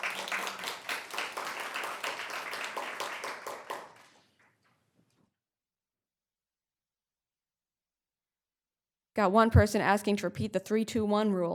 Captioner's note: applause